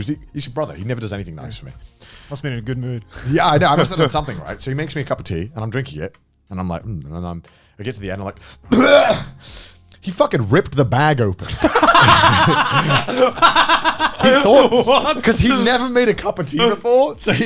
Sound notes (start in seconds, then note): 8.6 spitting loudly; 11.5 men cracking up